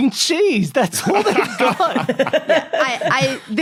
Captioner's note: guessers laughing